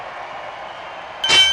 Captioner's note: bell rings